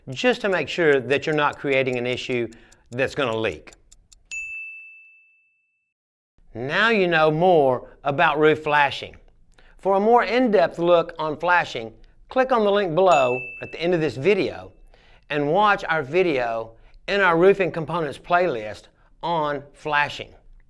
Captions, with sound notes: just to make sure that you're not creating an issue that's gonna leak. (bell dings) Now you know more about roof flashing. For a more in-depth look on flashing, click on the link below at the end of this video and watch our video and our roofing components playlist on flashing.